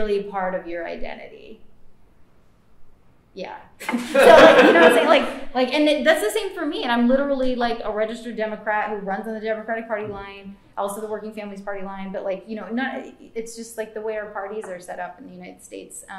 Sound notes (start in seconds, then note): 3.8 laughter